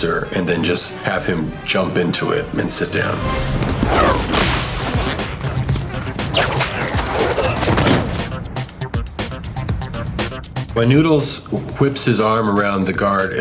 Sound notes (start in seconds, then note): 3.7 arm whip cracks; 6.6 arm whip swooshes